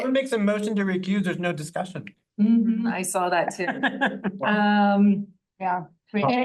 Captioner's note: laughing